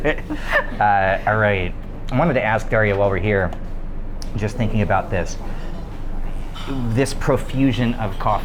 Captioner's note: laughing